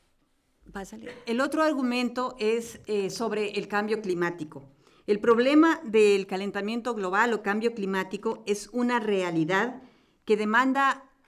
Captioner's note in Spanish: Español